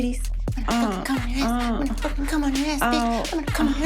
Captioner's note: moaning